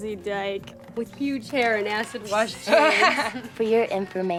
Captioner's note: friend laughs